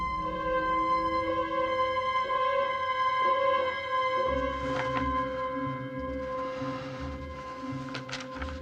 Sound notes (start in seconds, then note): 6.0 inhales